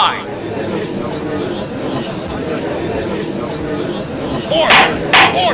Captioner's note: gallery chattering; gavel slams!